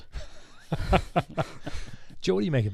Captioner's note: laughing